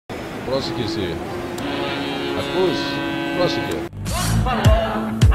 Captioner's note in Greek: Κόρνα!